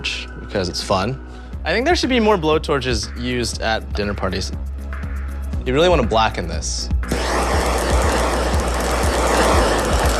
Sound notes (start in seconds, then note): 5.4 torch whooshing; 7.1 crackling